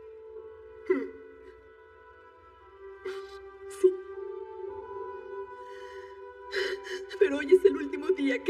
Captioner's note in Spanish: Solloza